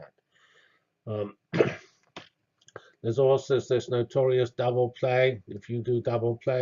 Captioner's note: cough